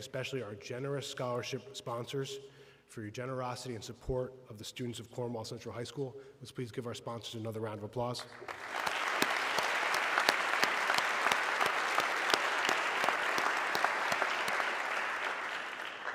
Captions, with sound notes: especially our generous scholarship sponsors for your generosity and support of the students of Cornwall Central High School. Let's please give our sponsors another round of applause. (everybody clapping)